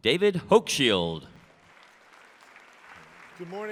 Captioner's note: applause